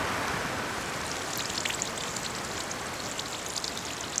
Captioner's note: water Falling